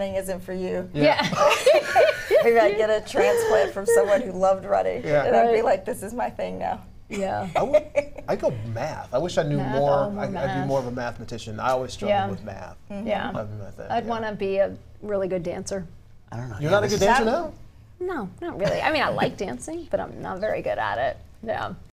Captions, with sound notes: INTEREST IN RUNNING. [ LAUGHTER ] >> AND MAYBE RUNNING ISN'T FOR YOU. [ LAUGHTER ] MAYBE I GET A TRANSPLANT FROM SOMEBODY WHO LOVED RUNNING, AND I WILL BE LIKE THIS IS MY THING NOW. >> I WOULD GO WITH MATH. I WOULD BE MORE OF A MATHEMATICIAN. I ALWAYS STRUGGLE WITH MATH. >> I WOULD WANT TO BE A REALLY GOOD DANCER.